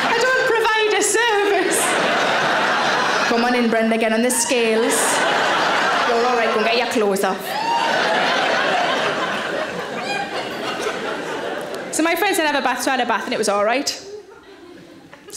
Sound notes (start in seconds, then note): 1.6 audience laughing; 7.7 audience laughing